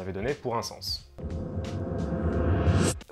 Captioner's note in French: bruit flashback